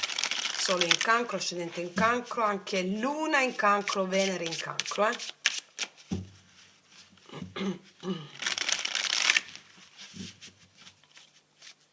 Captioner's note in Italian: schiarire la voce